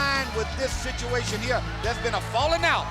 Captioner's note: crowd cheering